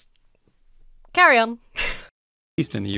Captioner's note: chuckles